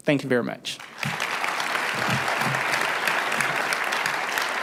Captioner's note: applause